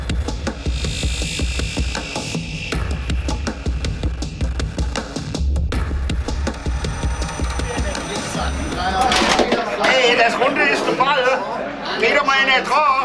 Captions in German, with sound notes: (Stimmengewirr) Hey, das Runde ist der Ball! Geht doch mal einer dran!